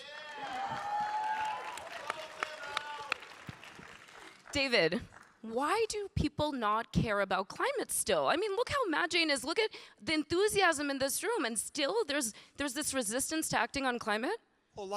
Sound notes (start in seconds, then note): 1.6 audience applauding and cheering